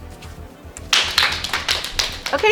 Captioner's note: applause